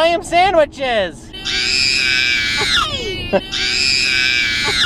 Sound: screams

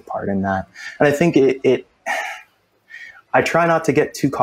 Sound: sighs

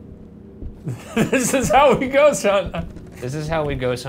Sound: laughs

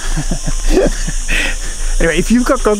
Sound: chuckles

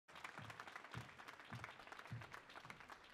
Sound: applause

